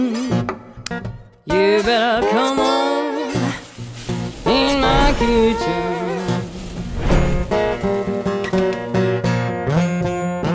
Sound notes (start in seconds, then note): 3.6 pan hissing; 7.5 enchanting music